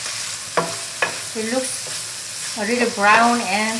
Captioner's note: pan sizzling